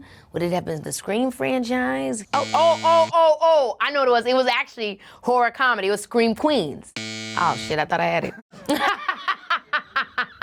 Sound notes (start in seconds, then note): 2.3 alarm buzzes; 6.9 alarm buzzes; 8.6 laughing